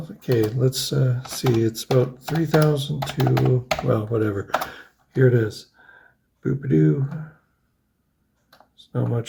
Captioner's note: happy noise